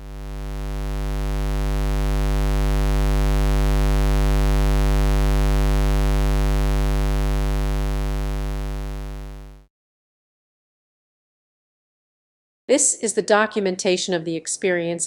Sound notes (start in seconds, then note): 0.0 square wave sound